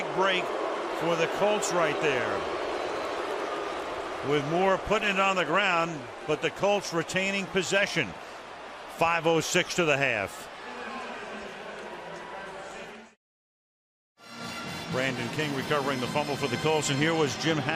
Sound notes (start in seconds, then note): 3.3 booing; 11.3 pa announcement